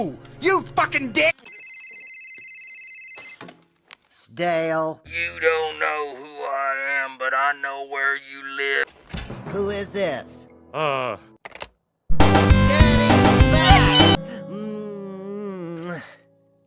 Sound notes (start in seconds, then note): 1.4 phone Rings